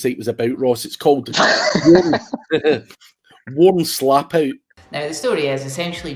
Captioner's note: laughing